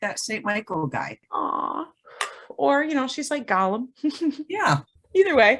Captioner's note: exhales; giggles